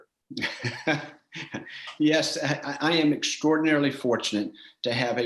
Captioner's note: laughs